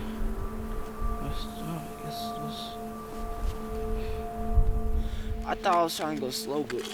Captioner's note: breathing heavily